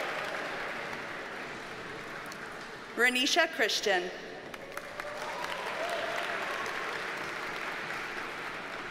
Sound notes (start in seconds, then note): 0.0 audience cheers and applauds; 4.5 audience applauds